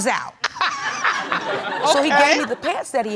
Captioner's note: chuckles